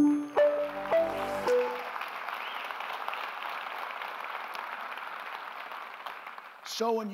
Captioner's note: applause